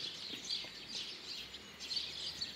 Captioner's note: birds chirping